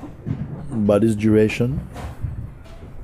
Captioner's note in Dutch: none